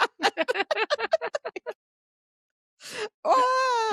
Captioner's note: both laughing